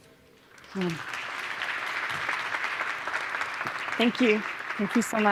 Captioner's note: crowd clapping